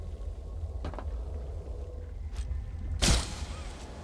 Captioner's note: footsteps